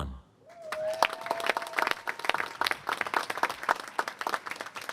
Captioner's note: applause